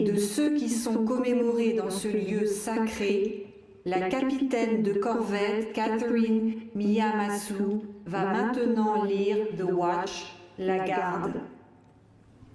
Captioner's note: speaking french